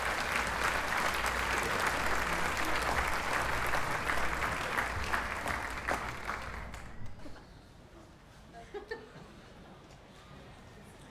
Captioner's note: applause